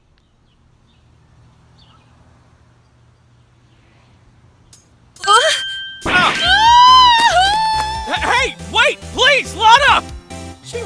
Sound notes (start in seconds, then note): 5.6 gasp!; 7.2 rapid footsteps!